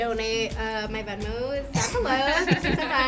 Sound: both laugh; laughs

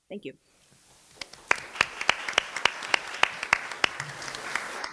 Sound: applause

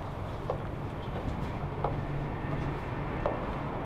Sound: footsteps

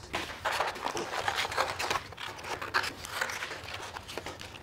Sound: paper rustling

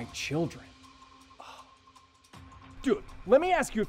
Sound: scoffs

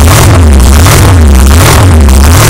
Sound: onboard drag racing

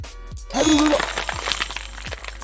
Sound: stuttering

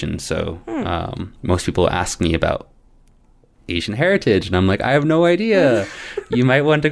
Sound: laughter

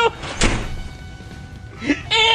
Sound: door Shut

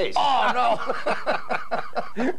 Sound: laughing

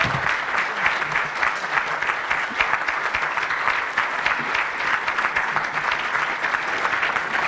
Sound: audience applause

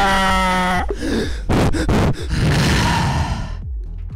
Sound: heavy breathing

